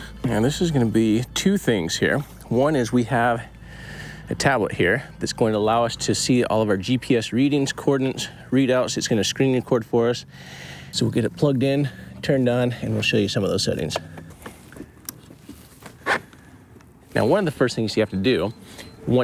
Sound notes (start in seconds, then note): 15.1 switch clicks; 16.0 zipper buzzes